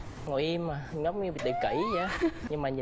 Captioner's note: the wife giggles